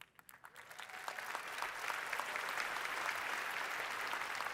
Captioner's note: audience applauding